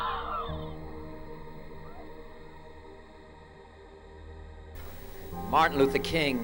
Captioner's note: screaming